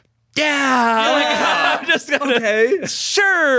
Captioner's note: everyone laughs